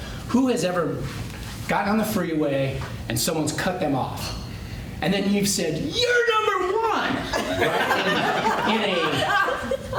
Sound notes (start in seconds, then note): 7.2 laughter